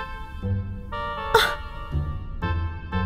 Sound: offended gasp

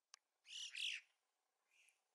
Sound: cries of Yellow-billed Chocards

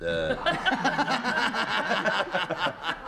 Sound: laughter

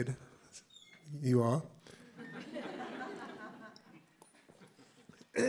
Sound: laughter

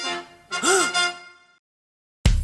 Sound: gasp

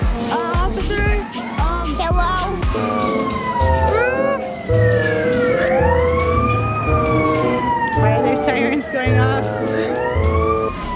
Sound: siren

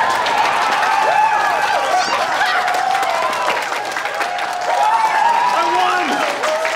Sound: cheering

